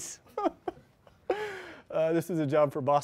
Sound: chuckles

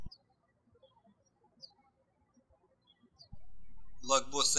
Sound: birds chirping

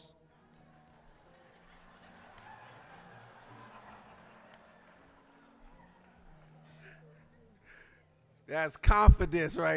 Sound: audience laughing

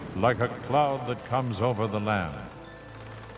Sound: crowd cheering

